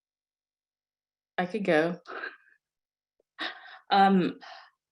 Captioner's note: laughs